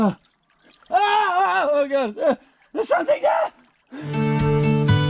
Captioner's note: yells; traditional Irish music